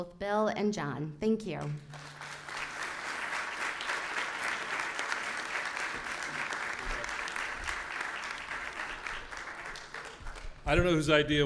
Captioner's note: applause